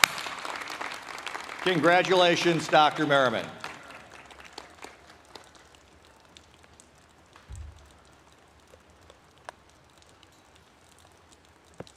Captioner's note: applause